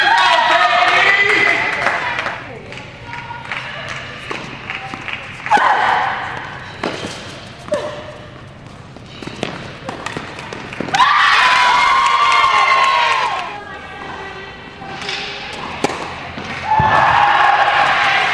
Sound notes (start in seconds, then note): 0.0 audience cheers; 6.1 players grunting; 10.9 audience cheers; 16.6 audience cheers